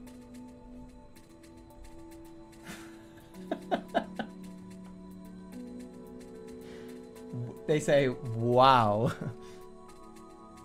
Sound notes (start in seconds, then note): 3.1 giggling